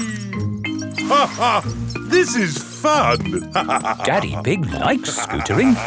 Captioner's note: laughs